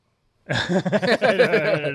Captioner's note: laughter